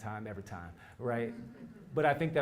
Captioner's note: laugh